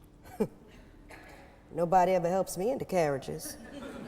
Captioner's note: laughs; audience laughing